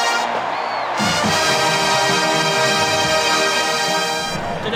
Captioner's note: crowd cheers